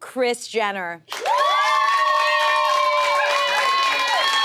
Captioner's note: audience cheers